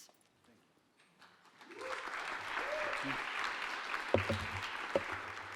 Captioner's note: audience applauding